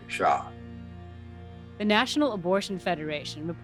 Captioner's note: soundbite of archived recording